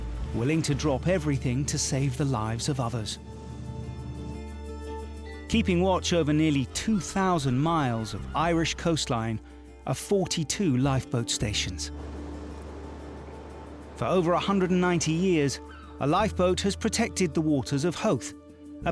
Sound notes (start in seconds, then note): 15.6 seagull squawking